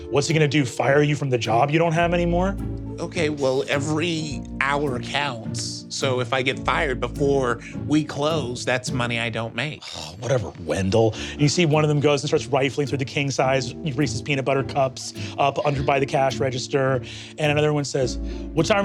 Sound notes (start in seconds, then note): 10.1 scoffs